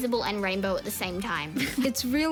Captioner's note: laughs